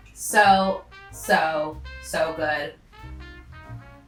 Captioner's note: none